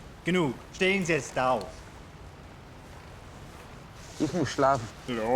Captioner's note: speaking foreign language